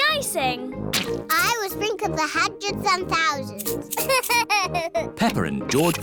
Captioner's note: laughs